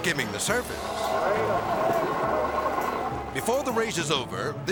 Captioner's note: people moaning